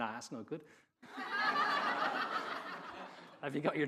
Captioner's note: audience laughing